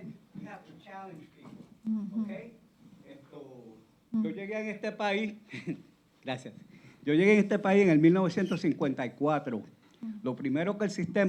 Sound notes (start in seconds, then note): 3.6 speaking Spanish